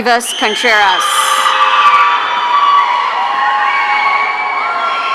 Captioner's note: audience cheering